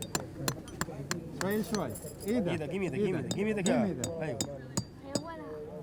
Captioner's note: speaking foreign language